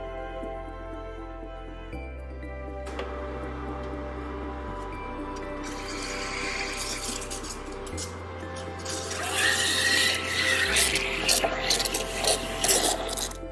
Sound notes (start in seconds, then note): 5.6 dispenser pouring; 8.6 dispenser hissing